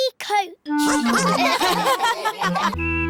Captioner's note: all laugh